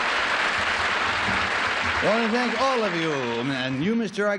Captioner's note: applause